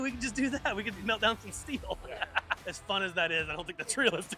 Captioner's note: laughs